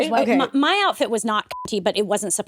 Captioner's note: beep